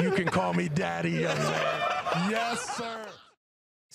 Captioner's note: laughter